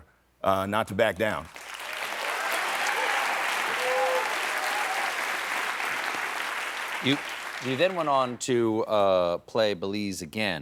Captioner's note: applause